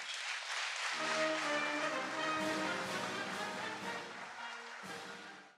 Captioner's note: applause